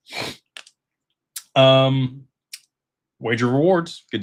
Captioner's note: snorts